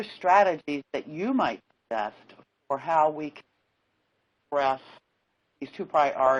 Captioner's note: audio cuts off